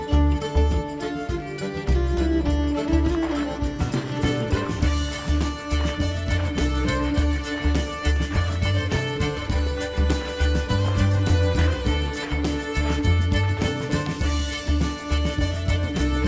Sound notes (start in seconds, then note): 3.0 sounds of footprint crunching on ground